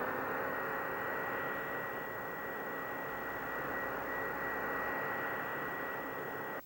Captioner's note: vacuucleaner starts